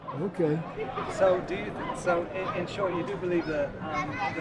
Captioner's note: voiceover